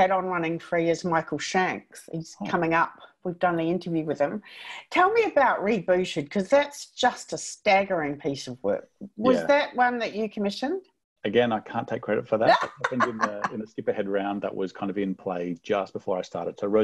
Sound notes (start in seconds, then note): 12.4 laughs